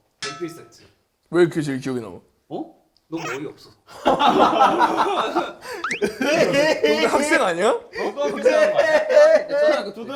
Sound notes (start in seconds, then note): 4.0 laughs out loud over how serious he is